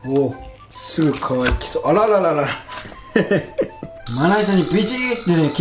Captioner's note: haha